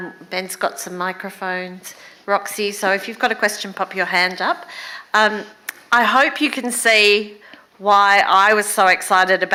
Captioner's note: none